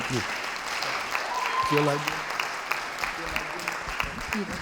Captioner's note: audience applauding